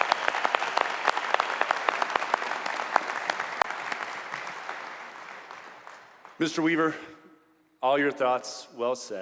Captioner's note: applause